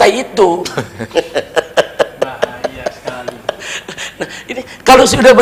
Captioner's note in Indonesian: tertawa